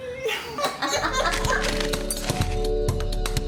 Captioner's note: all laughing